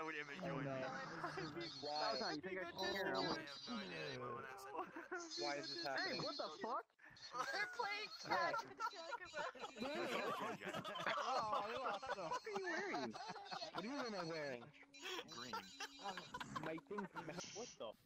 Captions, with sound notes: Why is this happening? They're playing catch! [sadistic laughter]